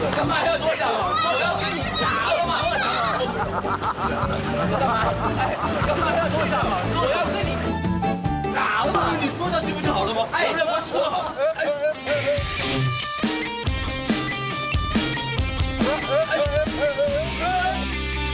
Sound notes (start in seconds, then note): 5.8 ruthless laugh